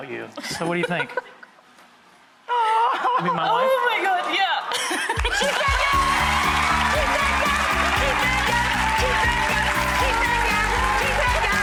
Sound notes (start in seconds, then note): 1.5 laughing; 5.0 audience applauding